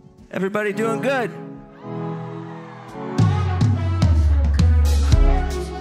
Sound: audience cheers

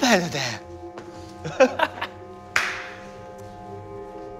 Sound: laughs

